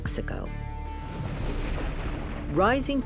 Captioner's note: thunder rumbling